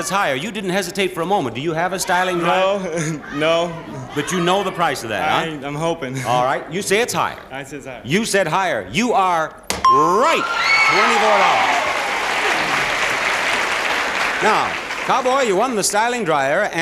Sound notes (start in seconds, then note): 10.2 audience applauding and cheering